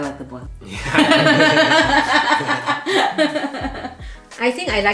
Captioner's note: laughs